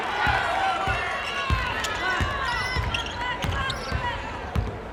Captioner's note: ball bouncing